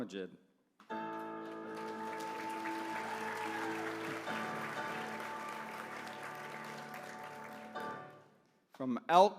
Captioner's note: applause